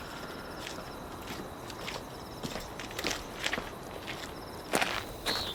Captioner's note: footsteps